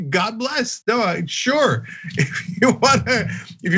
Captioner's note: laugh